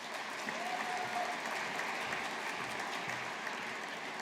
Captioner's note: audience applauding